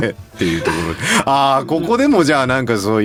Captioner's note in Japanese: 笑い